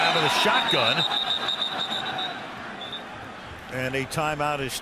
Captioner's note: whistle blowing